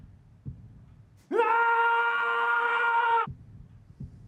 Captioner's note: screaming